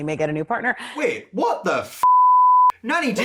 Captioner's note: beep